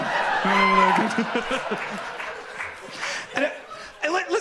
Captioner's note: audience laughs